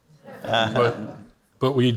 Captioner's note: audience laughs